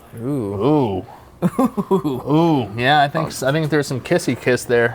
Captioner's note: chuckling